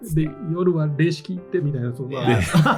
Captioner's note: laughs